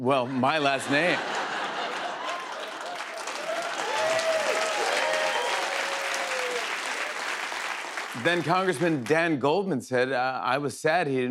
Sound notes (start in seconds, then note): 3.0 cheers and applause